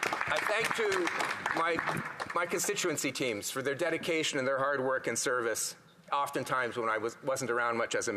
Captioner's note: applause